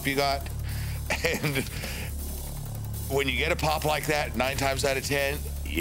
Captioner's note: laugh